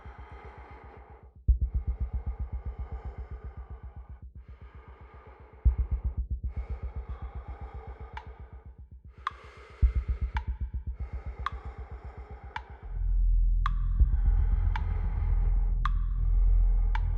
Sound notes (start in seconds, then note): 0.6 breath huffing; 0.6 suspenseful music; 8.7 ominous ticking music